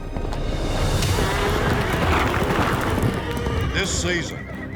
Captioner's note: horses gallop, neigh